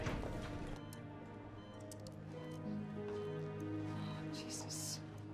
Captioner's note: machine beeping